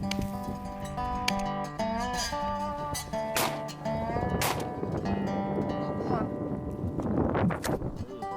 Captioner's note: gunshots